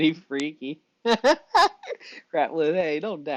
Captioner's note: laughs